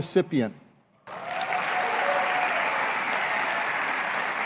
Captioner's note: applause